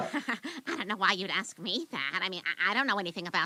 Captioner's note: laughs